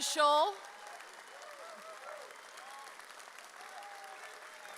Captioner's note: audience cheering